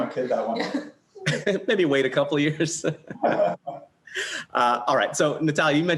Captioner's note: laughs